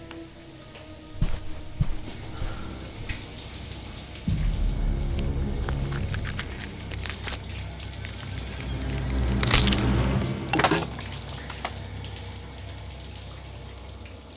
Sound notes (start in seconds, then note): 4.6 dark music; 5.2 flesh tearing; 10.5 metal casing dropping